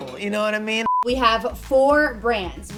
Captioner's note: beep